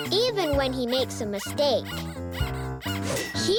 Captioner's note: Earth gasps squeakily